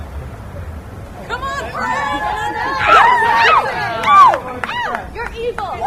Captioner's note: audience cheers